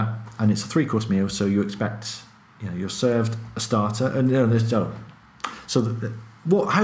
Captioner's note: stammers